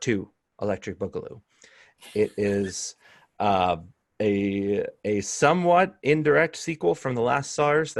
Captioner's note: laughter